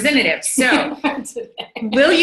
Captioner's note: laughs